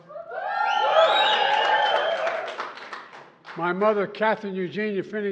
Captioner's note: applause